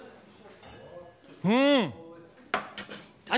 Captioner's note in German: Zurufe